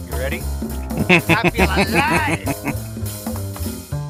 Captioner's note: laughing